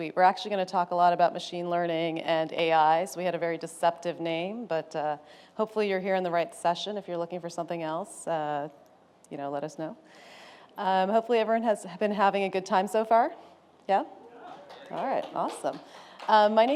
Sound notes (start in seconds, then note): 14.4 applause